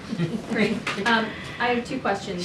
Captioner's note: laughter